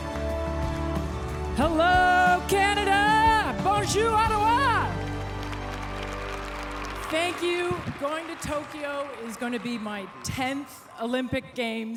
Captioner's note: applause